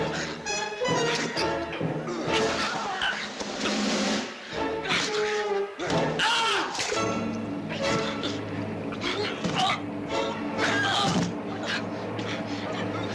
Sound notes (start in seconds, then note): 0.8 laughing; 6.1 yelling